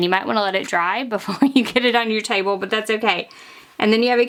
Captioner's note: laughs